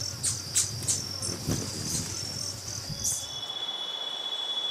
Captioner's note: birds chirping; bees buzzing; birds chirping